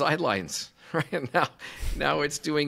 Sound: chuckles

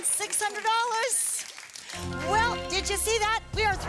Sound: audience applause

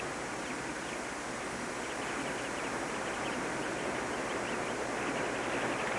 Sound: birds chirping

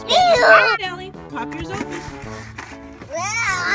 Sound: voiceover

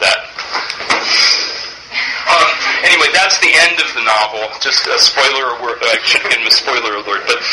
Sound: laughs

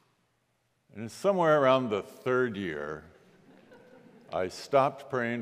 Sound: congregation laughs

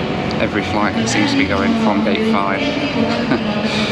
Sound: chuckles

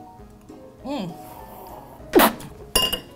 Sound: spits

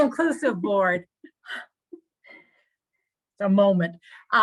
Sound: speaking faintly

